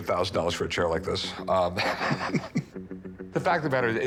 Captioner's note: laughs